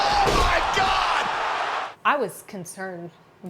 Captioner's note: audience cheers